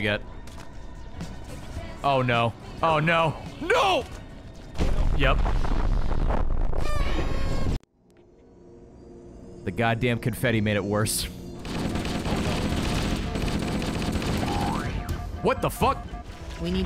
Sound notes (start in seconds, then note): 8.4 party horn noise